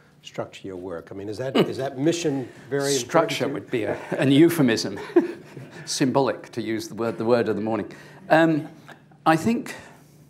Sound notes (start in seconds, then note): 4.9 laughter